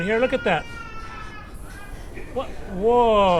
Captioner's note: baby crying